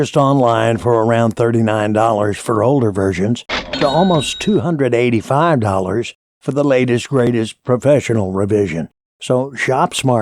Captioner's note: cash Register